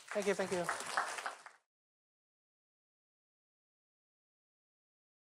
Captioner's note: applause